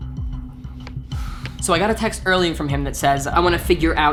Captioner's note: exhales heavily